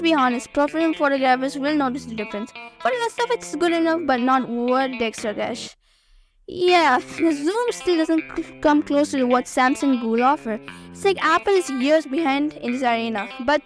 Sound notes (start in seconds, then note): 6.9 voiceover